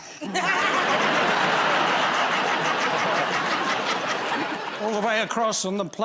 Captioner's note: laughter